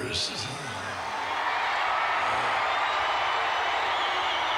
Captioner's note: crowd cheering